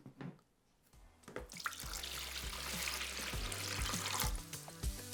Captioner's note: water bubbling; bright upbeat music